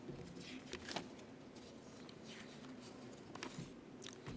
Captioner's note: paper crinkles